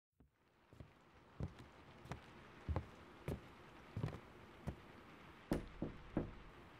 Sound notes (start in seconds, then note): 0.2 footsteps; 0.8 stormy ambience throughout; 5.5 footsteps and door opens; 5.5 knock on door